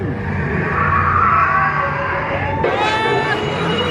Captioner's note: dino screeching